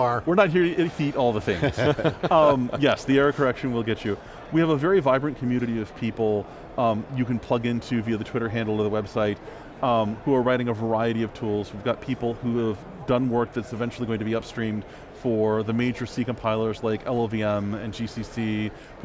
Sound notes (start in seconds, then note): 1.4 laughing